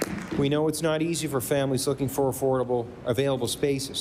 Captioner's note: applause